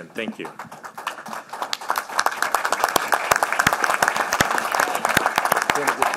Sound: applause

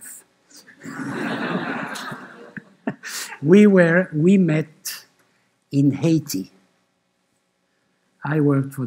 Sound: laughter

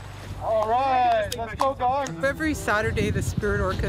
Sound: hands clapping

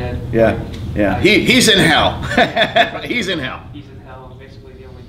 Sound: laughs

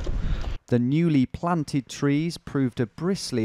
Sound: voiceover

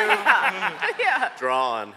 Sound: laughter

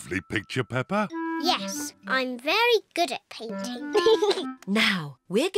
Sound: giggles

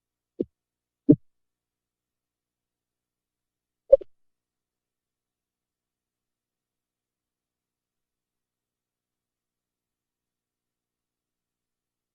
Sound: silence

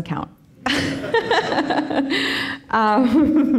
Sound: all laughing

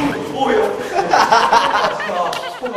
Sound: laughs maniacally

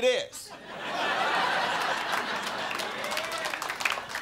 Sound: crowd laughing

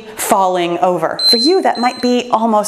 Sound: timer beeps

